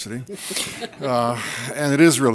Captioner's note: audience laughter